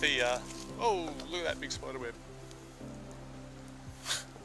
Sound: laughs

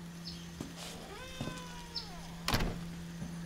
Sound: door creaking shut

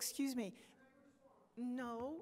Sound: speaks off microphone; voiceover

